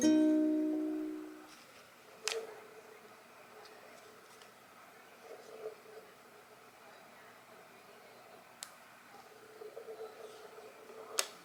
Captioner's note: magnets snapping back to each other